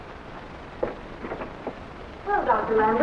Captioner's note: door opening